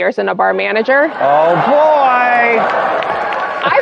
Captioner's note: all sighing